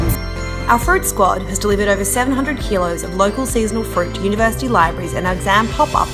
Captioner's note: voiceover